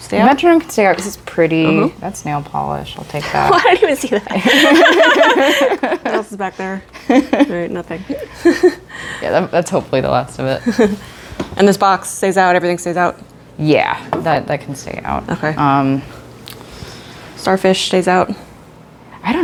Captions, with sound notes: Metronome can stay out because it's pretty. That's nail polish. I'll take that. I didn't even see that! [mischievous laughs] What else is back there? All right, nothing. That's hopefully the last of it. And this box stays out, everything stays out? Yeah, that can stay out. Starfish stays out.